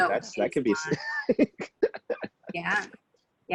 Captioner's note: laughs